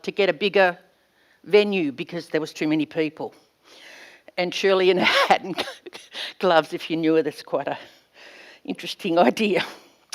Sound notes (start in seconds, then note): 6.3 laughs